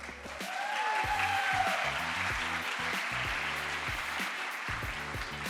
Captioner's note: crowd applause